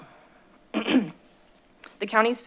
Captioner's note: clears throat